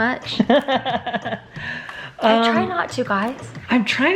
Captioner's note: laughing